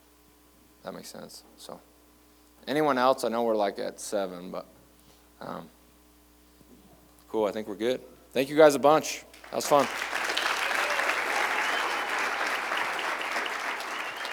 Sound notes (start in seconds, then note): 9.3 applause